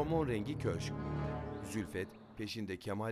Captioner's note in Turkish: Kuş cıvıltısı sesi